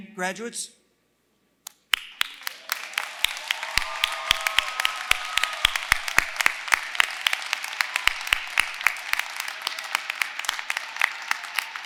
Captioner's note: applause